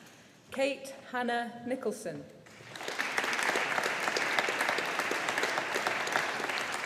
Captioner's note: audience applauding